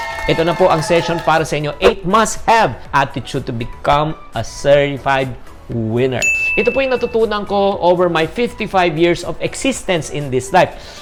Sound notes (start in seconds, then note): 0.0 cheers; 0.0 applause; 6.2 chime